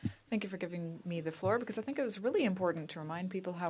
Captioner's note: speaking in french